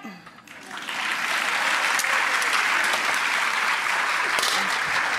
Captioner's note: audience applause